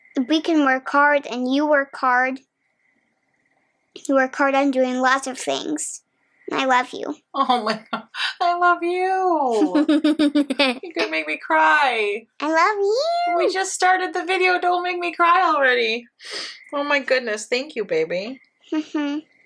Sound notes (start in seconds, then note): 9.5 laughs